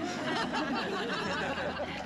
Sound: laughing

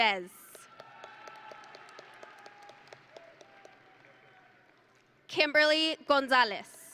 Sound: audience and graduates cheering

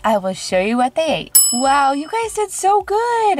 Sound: bell chime

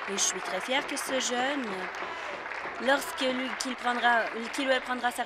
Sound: applause

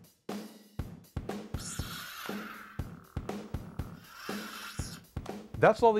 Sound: lightsaber sounds

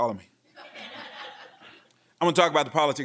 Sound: laughing

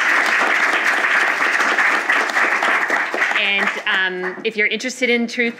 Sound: applause

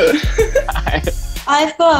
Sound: laughing

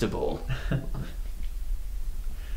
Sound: chuckles

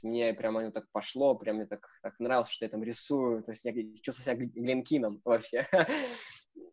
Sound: laughing

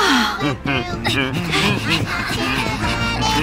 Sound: guards hum along with melody

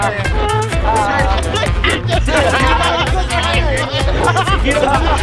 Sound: moaning

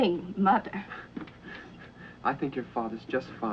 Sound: Peter chuckles

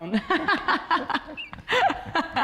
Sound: laughter

